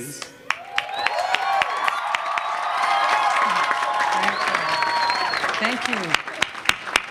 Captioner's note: applause